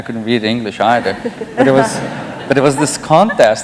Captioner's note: laughter